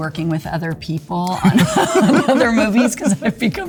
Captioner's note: both laughing